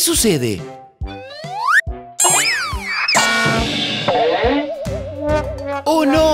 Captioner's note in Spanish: Sonido de golpes